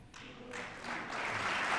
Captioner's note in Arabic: تصفيق